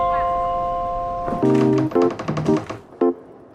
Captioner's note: door creaks